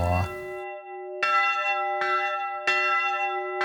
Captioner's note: loud, full bell chimes